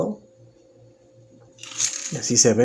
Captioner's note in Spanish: Silencio